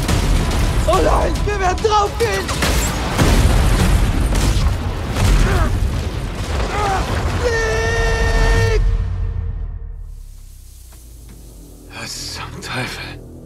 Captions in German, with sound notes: Oh nein, wir werden draufgehen! (Explosion) Niiiick! Was zum Teufel...